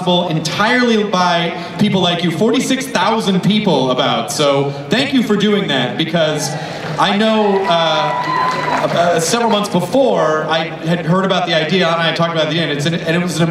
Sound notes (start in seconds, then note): 6.2 crowd cheers